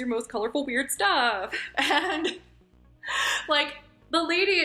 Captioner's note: laughs